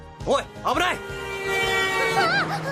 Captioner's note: car's Honk